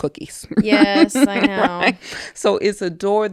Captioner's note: laughing